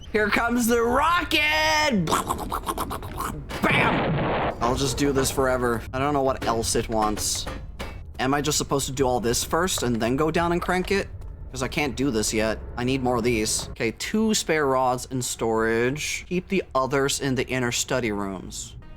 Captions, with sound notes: Here comes the rocket! (Makes rocket noises) Bam! [Explosion sfx] I'll just do this forever. I don't know what else it wants. Am I just supposed to do all this first and then go down and crank it? Because I can't do this yet. I need more of these. Okay, "two spare rods in storage." "Keep the others in the inner study rooms."